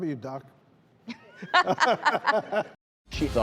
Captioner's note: doctors laugh